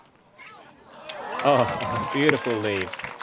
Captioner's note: audience cheers